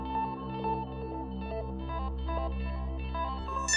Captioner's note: none